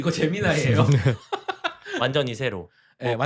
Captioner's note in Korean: 웃음